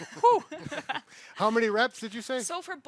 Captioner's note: everyone laughs